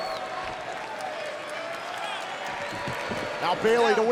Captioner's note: crowd boos and claps